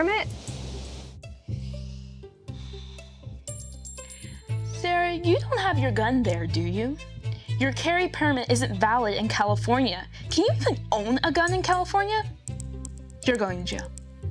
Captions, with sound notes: (sighs) - Sarah, you don't have your gun there, do you? Your carry permit isn't valid in California. Can you even own a gun in California? - You're going to jail.